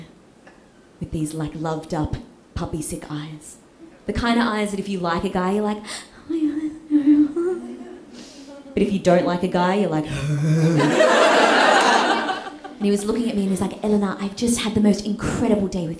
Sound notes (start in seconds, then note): 10.1 gags